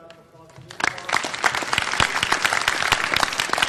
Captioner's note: audience applause